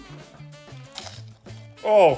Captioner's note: crunching